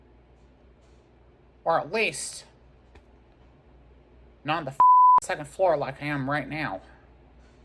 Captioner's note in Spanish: bip